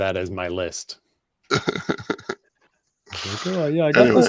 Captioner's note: laughs